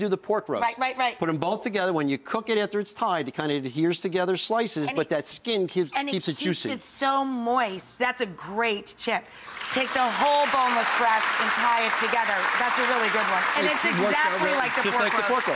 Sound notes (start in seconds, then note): 9.4 audience clapping